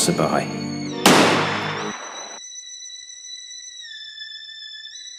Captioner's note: sound: GUNSHOT!